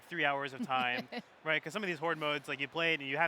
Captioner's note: laughs